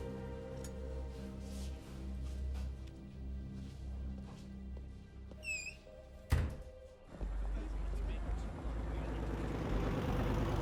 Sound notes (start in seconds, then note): 5.4 door creaks, closes